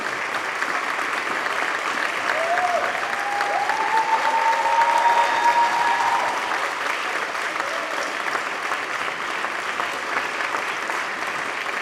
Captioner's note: applause